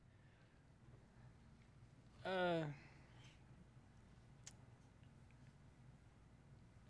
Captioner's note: he pauses and sighs